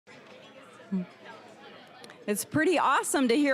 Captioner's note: general chatter